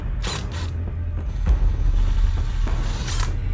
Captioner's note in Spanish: zumbido del taladro